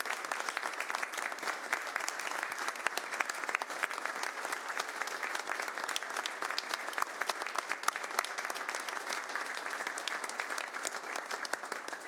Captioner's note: applause